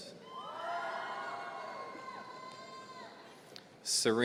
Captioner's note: audience cheering